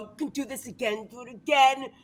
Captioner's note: none